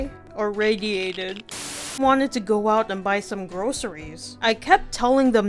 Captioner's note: Static